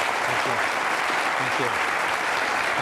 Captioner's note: long applause